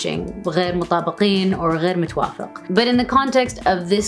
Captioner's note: speaks in foreign language